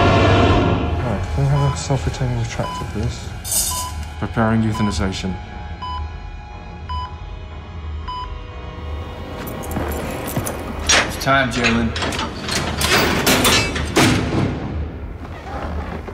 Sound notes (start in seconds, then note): 2.6 heart monitor beeping; 8.4 ominous music; 12.8 cell door clinking